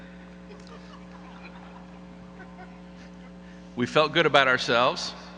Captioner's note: audience laughing